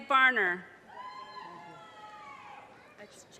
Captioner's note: audience cheers and applause